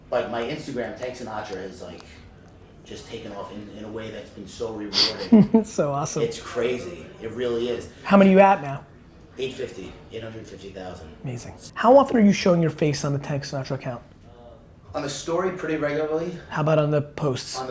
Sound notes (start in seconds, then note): 4.9 laughs